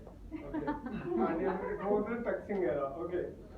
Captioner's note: giggles in audience